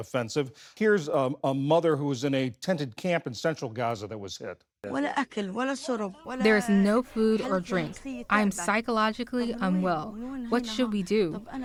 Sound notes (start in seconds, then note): 7.3 through translator